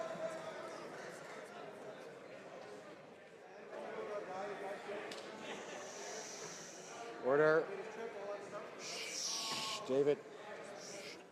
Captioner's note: speaking French